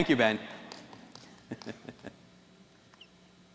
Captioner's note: chuckles